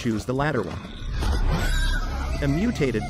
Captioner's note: animal shrieks; ominous music playing